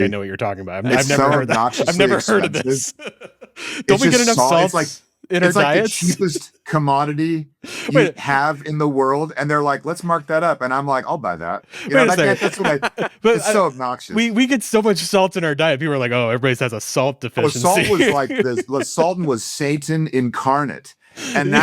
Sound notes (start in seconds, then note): 4.3 laughs